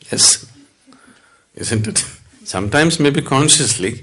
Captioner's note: laughs